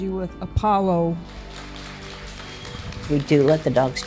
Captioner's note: applause